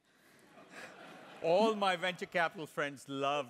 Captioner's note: laugh